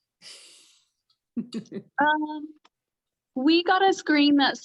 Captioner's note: laughs